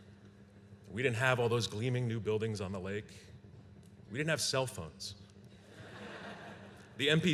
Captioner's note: laughter